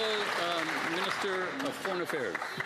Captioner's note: cheers & Applause